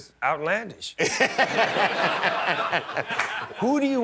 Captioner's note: laughter